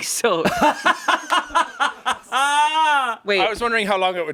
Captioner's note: everyone laughs